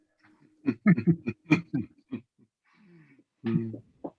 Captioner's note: laughing